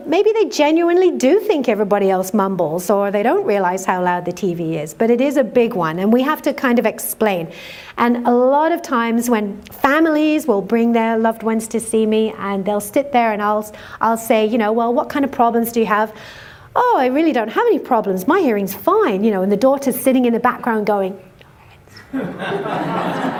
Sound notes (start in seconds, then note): 21.3 whispering; 22.0 laughter